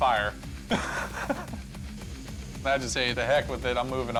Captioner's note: laughter